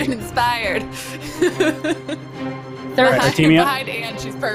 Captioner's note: laughs